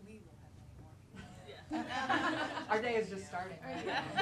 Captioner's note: laughter